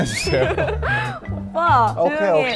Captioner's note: muted laughter LOL